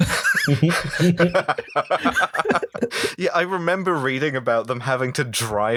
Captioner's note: laughter